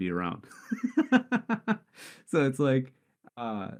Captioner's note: laughs